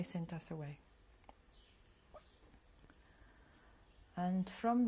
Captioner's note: pauses for 3 seconds